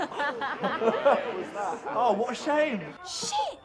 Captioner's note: laughs; group laughing